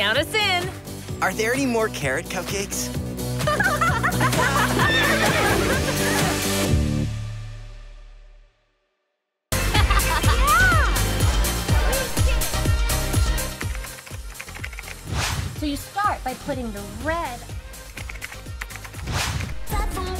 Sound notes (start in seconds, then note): 3.4 all laugh